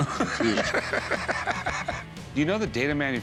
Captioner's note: laughing